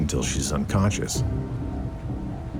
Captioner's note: water sloshing